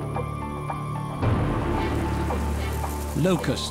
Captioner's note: locusts fluttering